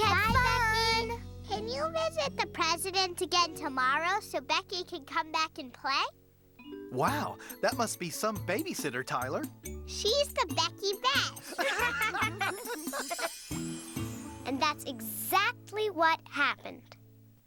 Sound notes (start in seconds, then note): 11.4 all laughing